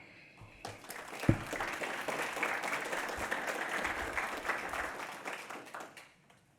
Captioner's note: audience applauds